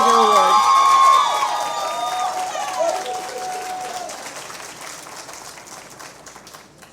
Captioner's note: cheers and Applause